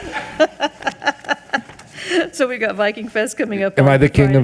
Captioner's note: laughs